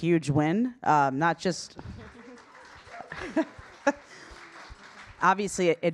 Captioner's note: audience applauding